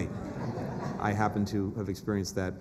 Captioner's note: laughter